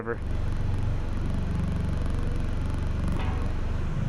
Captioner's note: engine roaring